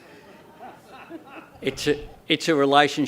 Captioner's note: laughter